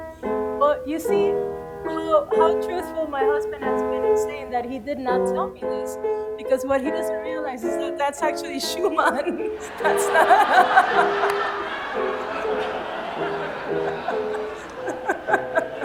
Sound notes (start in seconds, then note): 8.6 laughter; 12.3 piano music